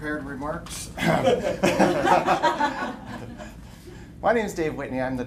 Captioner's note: laughter